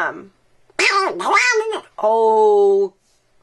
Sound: Donald Duck quacks

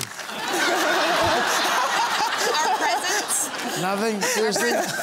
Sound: laughter

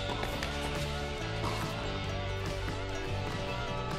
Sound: upbeat rock music; ball smacking

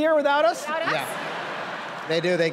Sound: laughter

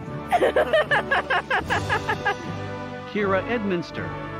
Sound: people laughing

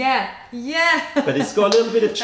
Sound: laughter

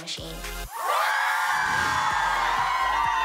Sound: cheering

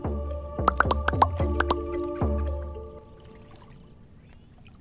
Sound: mushrooms pop

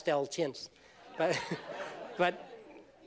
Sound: laughter

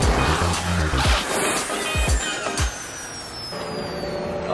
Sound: engine whining

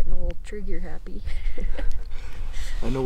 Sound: laughing

